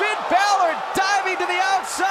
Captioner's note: crowd chatter; crowd cheering